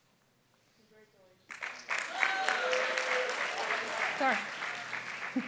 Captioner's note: applause